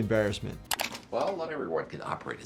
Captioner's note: mouse clicking